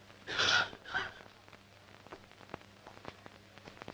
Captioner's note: coughing